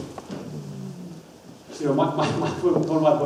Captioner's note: audience murmurs